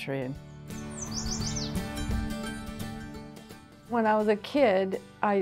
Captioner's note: bird chirping